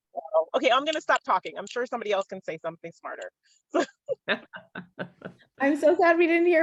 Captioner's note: laughter